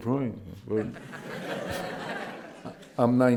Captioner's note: laughter